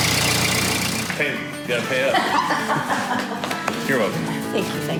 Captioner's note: laughing happily